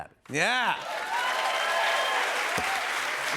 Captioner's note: cheers and applause